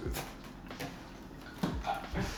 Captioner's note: laughs